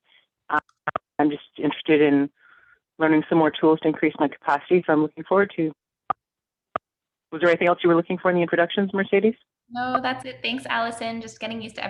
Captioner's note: buttons beeping